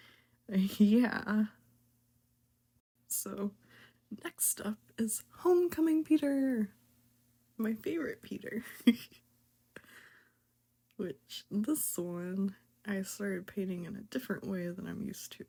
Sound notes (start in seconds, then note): 8.6 laughs in happy